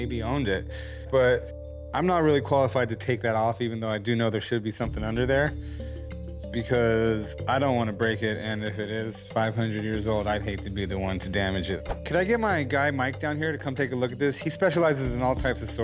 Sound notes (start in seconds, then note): none